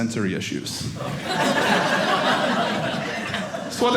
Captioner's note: audience laughing